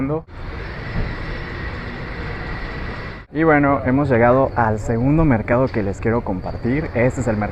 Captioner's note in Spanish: Sonido calle